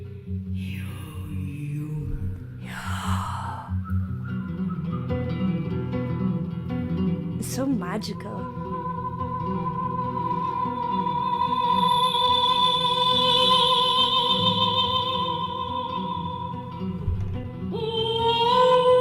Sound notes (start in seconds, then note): 1.8 mimicking the breathy sound; 8.9 continues singing